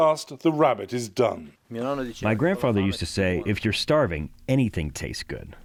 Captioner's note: through translator